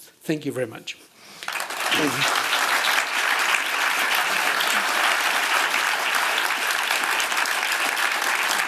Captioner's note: applause